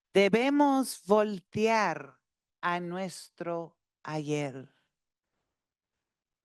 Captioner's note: speaking Spanish continues